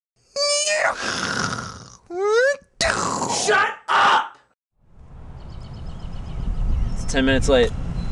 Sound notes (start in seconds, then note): 0.5 weird sound effects